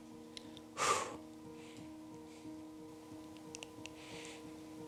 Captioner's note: exhaling sharply